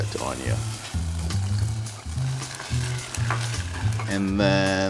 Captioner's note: ketchup sizzling; quirky jazz music